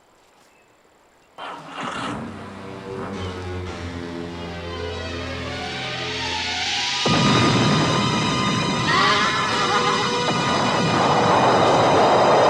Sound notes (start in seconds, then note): 1.4 Jeep rumbling; 2.8 dramatic music; 7.0 explosions booming; 8.9 horse whinnying